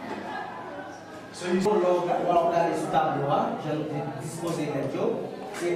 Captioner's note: speaking foreign language